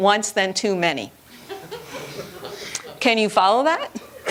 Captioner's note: laughter